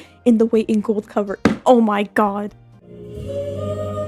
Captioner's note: smack